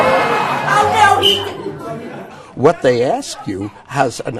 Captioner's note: blows whistle